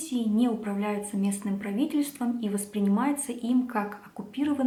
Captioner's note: Georgian